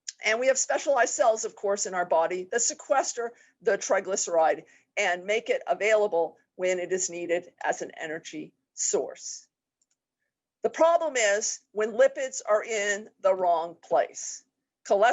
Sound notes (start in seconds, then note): 10.0 mouse clicks